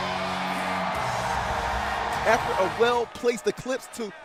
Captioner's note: crowd cheering